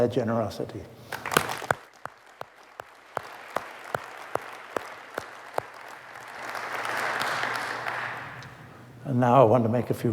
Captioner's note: applause